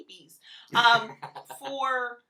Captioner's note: laughs